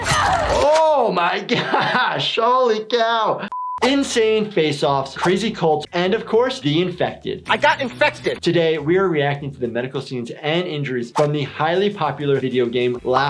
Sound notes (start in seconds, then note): 0.1 knife stabbing; 3.5 beep